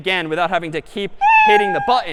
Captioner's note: meow